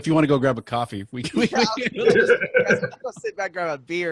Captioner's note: all laughing